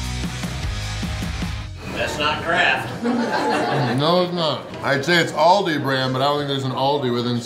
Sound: crowd

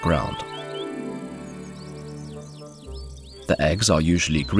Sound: sounds of nature

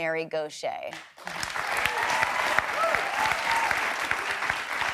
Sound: applause

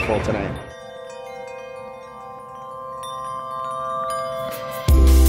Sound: bells chiming

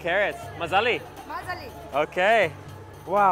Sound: in foreign language

